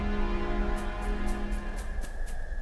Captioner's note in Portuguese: barulho de passos